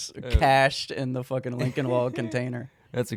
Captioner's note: laughing